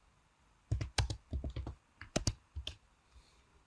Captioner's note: keys click